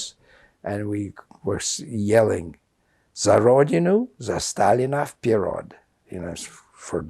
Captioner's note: russian